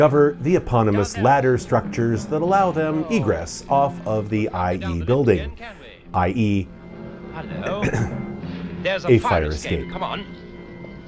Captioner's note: ahem